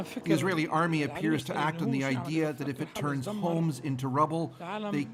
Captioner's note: speaking alternate language